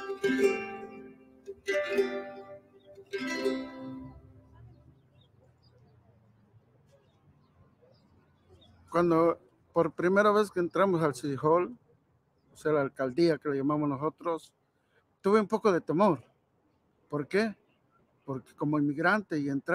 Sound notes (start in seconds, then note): 8.9 speaking in foreign language